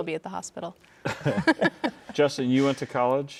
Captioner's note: all laughing